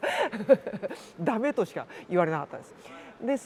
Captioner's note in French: rires